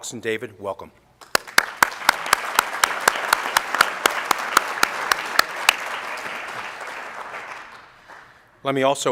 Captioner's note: applause